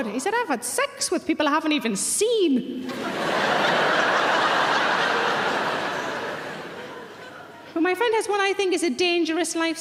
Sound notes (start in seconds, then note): 2.8 audience laughing